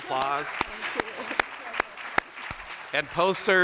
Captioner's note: applause